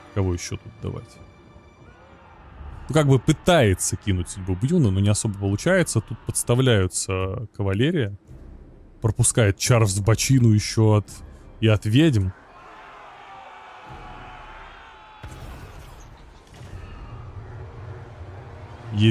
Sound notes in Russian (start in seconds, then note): 12.3 крик; 14.9 ликование